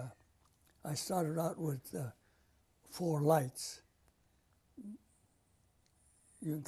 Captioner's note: pauses for 3 seconds